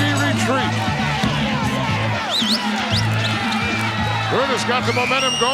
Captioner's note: audience cheering